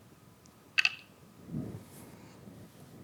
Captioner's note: dice clattering